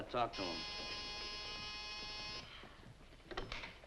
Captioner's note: phone rings